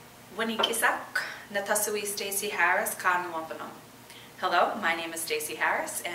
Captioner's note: speaking in wampanoag